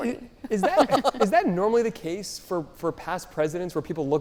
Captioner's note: panelists laughing